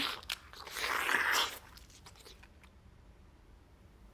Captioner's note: Oliver slurping